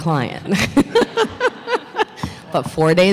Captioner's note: laughter